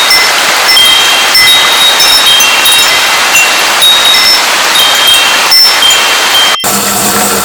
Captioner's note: wind chimes sound